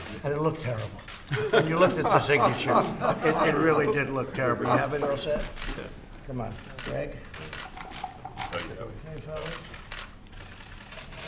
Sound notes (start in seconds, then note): 1.3 laughter